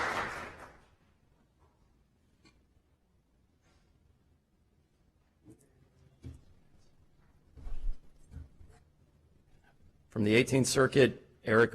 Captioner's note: applause